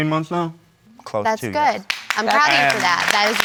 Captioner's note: applause